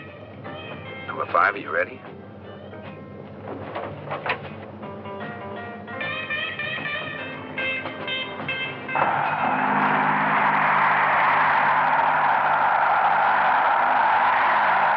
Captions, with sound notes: Number Five, are you ready? [wind whooshing]